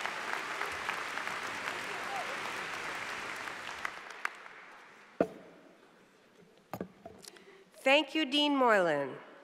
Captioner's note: applause